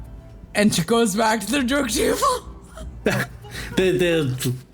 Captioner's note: laughs